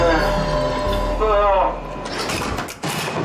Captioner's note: groans